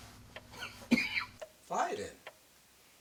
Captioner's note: laughing